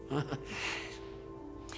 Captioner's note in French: soupirs